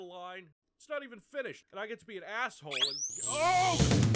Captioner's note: zap!